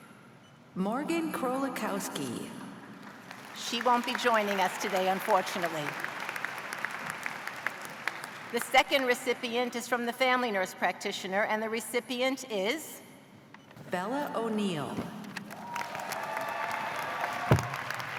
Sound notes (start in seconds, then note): 7.3 applause